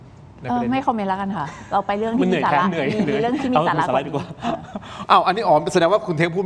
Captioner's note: laughs